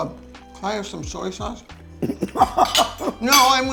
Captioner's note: laughing